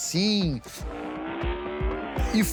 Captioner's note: car engine